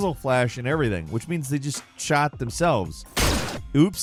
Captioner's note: gun fires